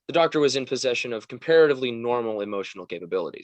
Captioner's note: none